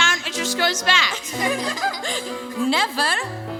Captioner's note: children laughing